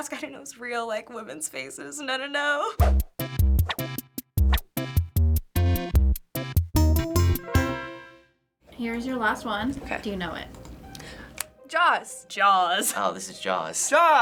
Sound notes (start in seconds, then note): 3.6 quirky interlude; 11.3 snaps